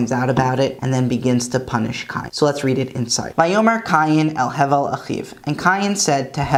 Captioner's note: Hebrew